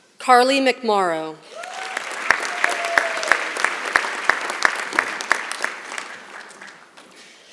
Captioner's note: applause